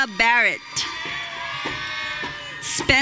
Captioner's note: audience cheering